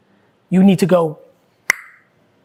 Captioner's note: tongue clicking